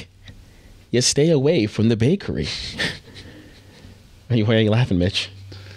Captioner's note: laughing